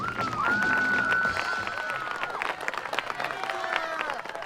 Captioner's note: cheering